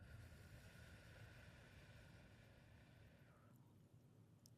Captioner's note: exhaling